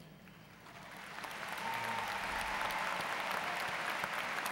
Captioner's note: applause